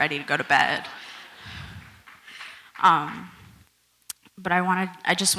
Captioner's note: audience laughs